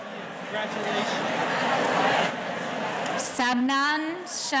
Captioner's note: murmurs